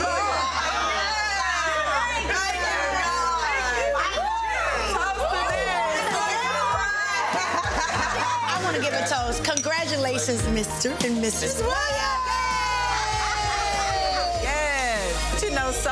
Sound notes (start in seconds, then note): 1.0 group chattering; 5.6 group laughing; 11.5 group cheering